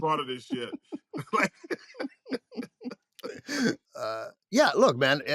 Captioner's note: both laugh